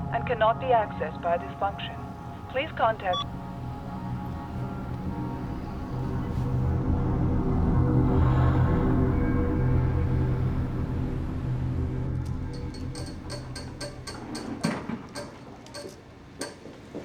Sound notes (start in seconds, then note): 1.3 beeps; 12.5 fingernails tapping nervously